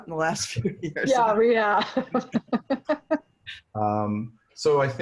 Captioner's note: laughs